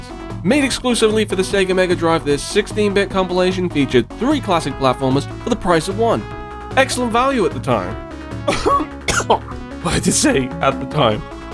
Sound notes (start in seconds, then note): 8.4 choked cough